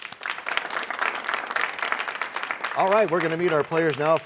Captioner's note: applause